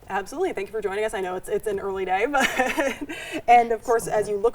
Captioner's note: laughs